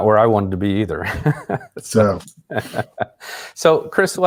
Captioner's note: laughs